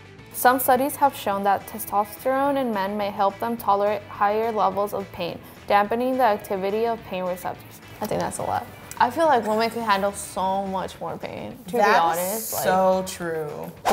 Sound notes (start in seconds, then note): none